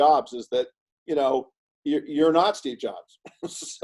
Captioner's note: laughs